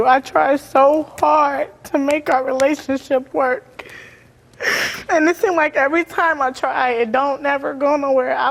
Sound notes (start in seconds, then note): 5.1 crying